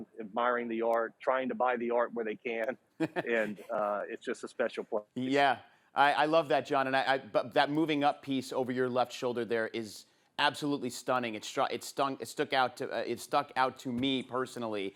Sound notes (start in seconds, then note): 3.0 laughs